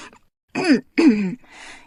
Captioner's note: coughs